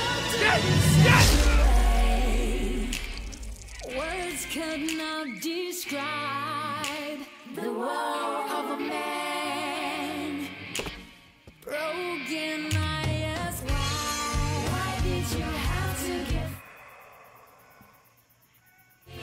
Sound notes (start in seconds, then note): 1.2 weapon thuds